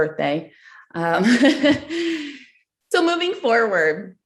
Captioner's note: giggles